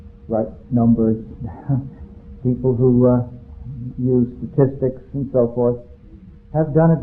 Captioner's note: chuckles